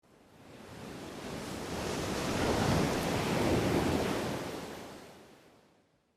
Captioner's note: waves splashing